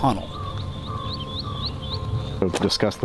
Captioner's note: birds chirping